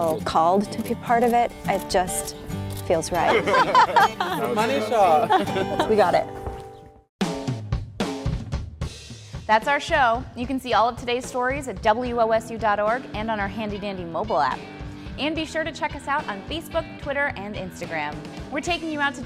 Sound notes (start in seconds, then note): 3.2 laughter